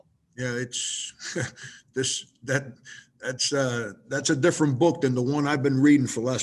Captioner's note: laughs